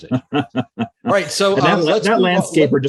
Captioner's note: laughs softly